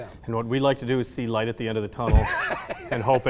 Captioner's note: laughs